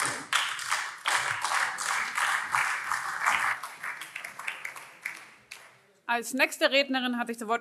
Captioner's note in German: Beifall BÜNDNIS 90/DIE GRÜNEN, vereinzelt SPD und Freie Demokraten - Zurufe AfD